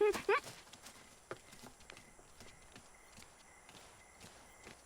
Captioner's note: crickets chirping